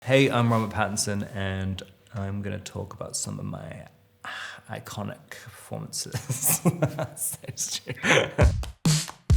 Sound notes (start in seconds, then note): 6.1 Robert laughs